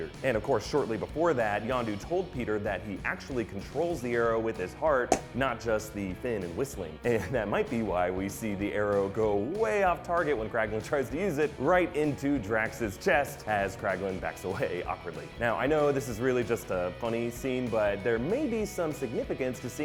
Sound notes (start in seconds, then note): 5.0 pop!